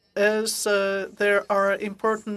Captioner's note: speaking French